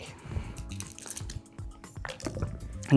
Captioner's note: dice clattering